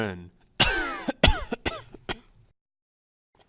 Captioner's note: cough